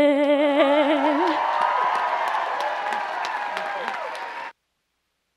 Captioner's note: audience applauds and cheers